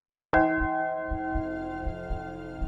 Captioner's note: bell